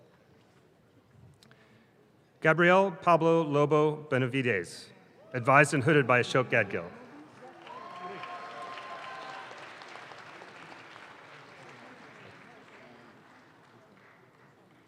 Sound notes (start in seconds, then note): 6.9 audience claps